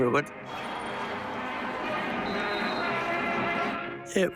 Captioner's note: cheering